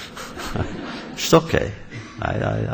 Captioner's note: laughter